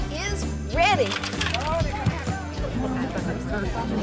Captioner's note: vegetables thud on table; people chattering